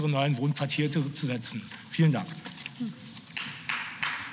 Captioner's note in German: Beifall